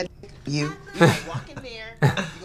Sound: both laugh

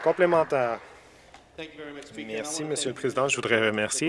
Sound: some Applause

